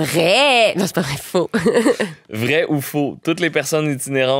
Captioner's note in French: petit rire